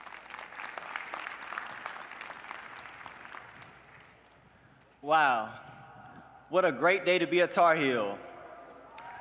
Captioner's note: applause